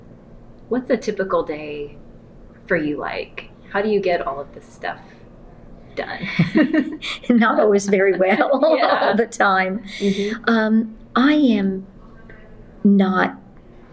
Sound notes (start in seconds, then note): 6.2 laughter; 9.4 laughs